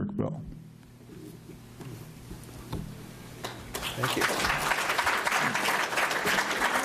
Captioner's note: applause